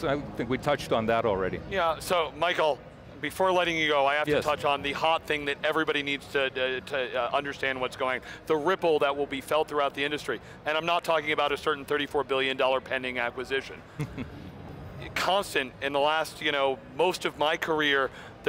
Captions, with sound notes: I think we've touched on that already. >> Yeah so Michael before letting you go I have to touch on the hot thing that everybody needs to understand what's going. The ripple that will be felt throughout the industry. And I'm not talking about a certain 34 billion dollar pending acquisition. (laughs) Constant in the last, most of my career